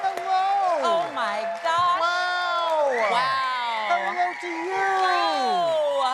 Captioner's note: cheers and applause